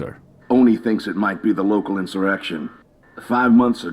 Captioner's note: radio